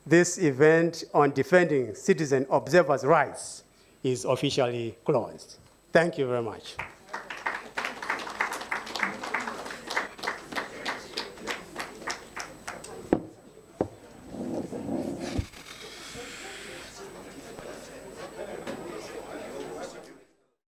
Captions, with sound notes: this event on defending citizen observers' rights is officially closed. Thank you very much. (attendees applauding) (attendees chattering)